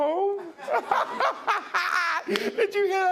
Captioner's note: laughing hysterically